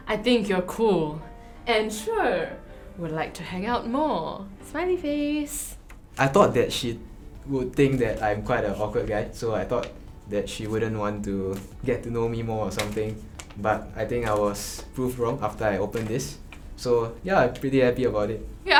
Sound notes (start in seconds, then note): none